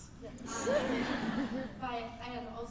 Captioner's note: laughter